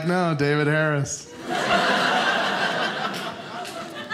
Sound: audience laughing

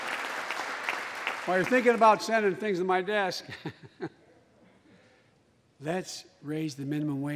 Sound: applause

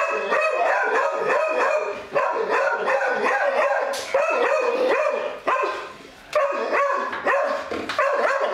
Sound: Marti barks louder; barking continues

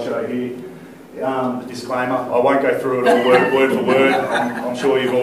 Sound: laughter

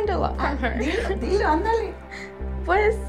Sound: Eileen's grandma speaks in foreign language; speaks in foreign language

